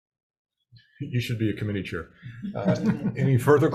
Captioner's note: members chuckle